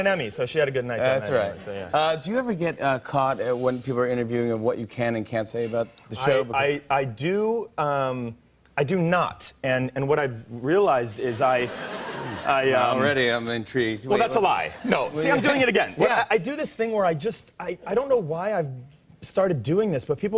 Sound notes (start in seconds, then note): 11.5 laughter